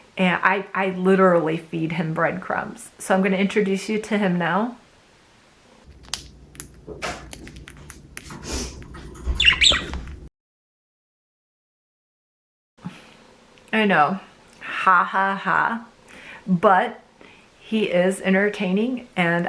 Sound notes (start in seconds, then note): 9.2 bird chirping